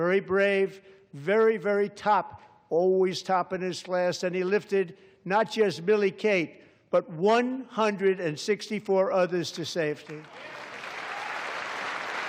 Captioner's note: applause